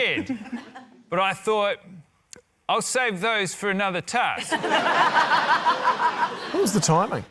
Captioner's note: scattered laughter; laughter